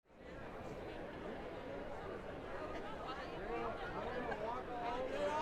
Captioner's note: people chattering indistinctly